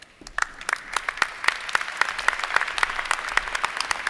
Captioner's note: applause